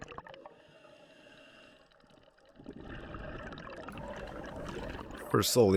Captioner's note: water Sounds